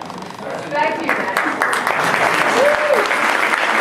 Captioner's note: clapping